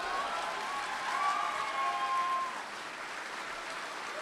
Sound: applause and cheering

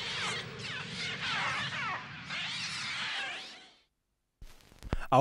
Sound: acoustic samples of bird chattering from the movie; silence - then music starts

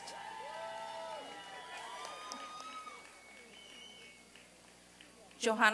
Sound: applause and cheering

